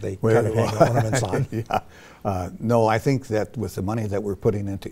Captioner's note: laughs